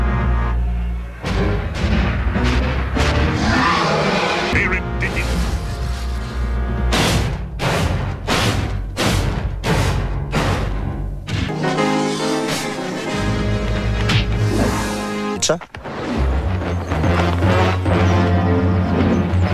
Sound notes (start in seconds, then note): 2.6 lizard lets out powerful and long roar